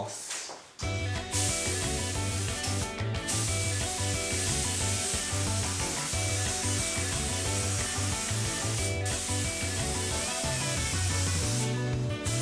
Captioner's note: working sound